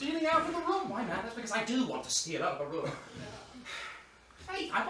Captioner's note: sighs